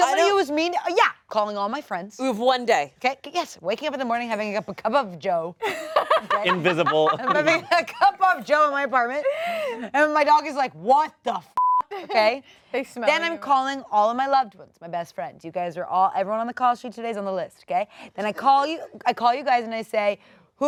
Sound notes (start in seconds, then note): 11.5 beep